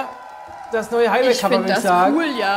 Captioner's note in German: Jubel